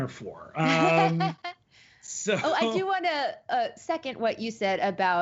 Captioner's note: laughs